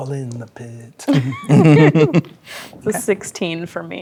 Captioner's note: players laughing